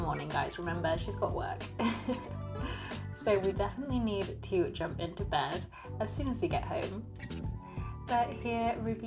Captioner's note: laughs